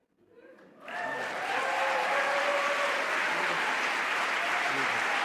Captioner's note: applause